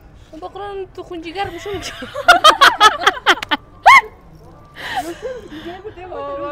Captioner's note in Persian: خنده